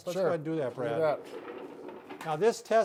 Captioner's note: wheels scraping